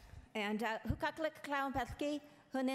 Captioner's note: speaking in foreign language